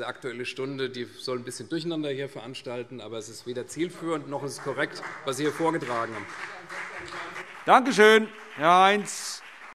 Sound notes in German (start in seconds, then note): 6.5 Beifall CDU